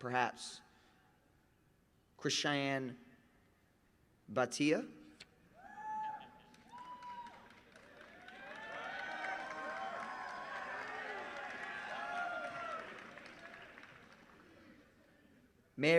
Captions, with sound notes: [ APPLAUSE ] THANK YOU. YOU MAY BE SEATED. STUDENTS GRADUATING MAGNA CUM LAUDE HAVE ACHIEVED GRADE-POINT AVERAGES OF 3.65 - 3.84. WILL THOSE STUDENTS WHO ARE